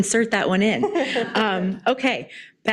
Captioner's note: laughing